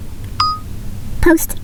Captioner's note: phone beeping